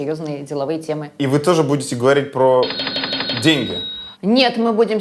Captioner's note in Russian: звук кассового аппарата